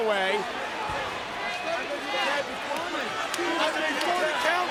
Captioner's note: crowd chattering